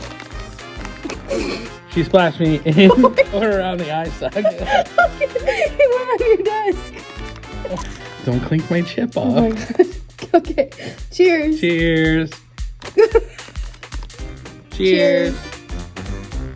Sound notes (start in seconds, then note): 12.9 laughing